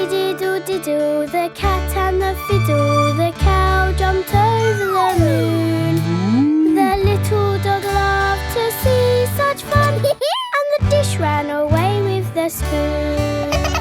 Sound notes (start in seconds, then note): 10.0 dog laughs